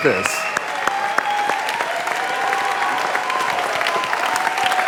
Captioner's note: audience applauding